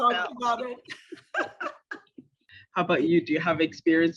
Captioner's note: laughter